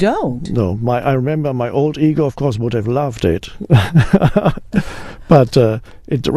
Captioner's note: laughs